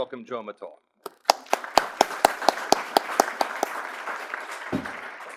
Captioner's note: audience applauds